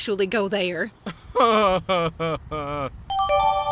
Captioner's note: heavy sigh